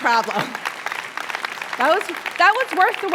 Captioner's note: applause